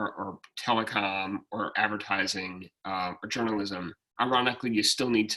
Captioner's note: speaking faintly